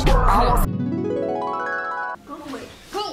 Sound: ascending pitches

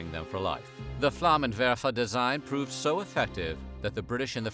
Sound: non-english speech

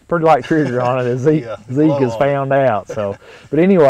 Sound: chuckling

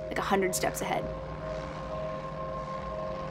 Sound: airplane rumbles

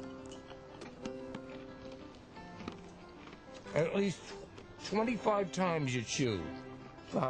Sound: chews food

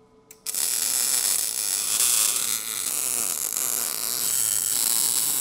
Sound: welding torch buzzing

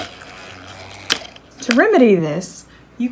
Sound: rover stops vibrating

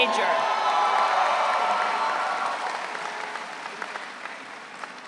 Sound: audience cheering

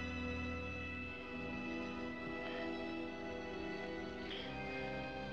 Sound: erratic Breathing

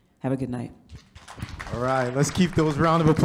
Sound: audience claps

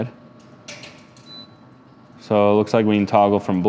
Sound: firebox beeping

